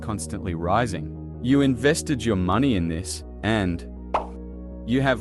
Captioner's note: pop